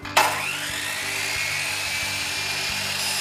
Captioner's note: saw whirs